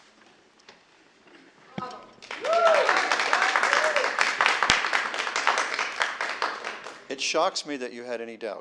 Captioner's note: applause